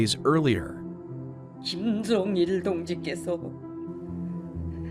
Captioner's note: speaking in Korean